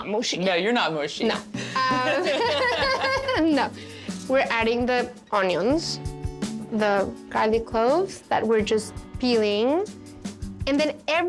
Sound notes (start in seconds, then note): 1.6 Pati and Vivian laugh